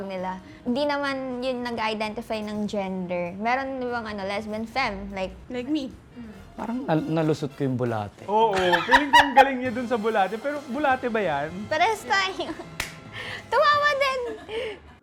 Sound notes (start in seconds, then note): 8.6 laughs